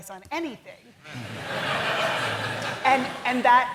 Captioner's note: laughter